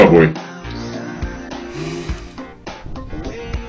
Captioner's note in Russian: Тяжело вдыхает